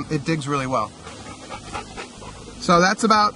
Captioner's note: dog panting